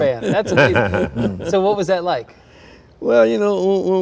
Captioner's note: chuckles